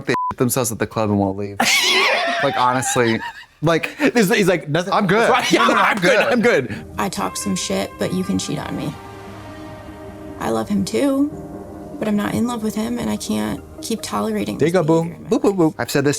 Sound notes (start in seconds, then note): 0.2 beep; 1.6 Katya wheezes